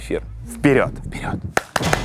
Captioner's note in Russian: Шёпотом; Хлопает